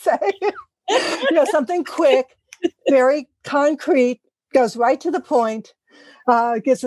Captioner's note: laugh